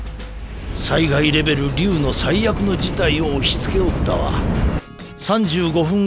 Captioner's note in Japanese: バング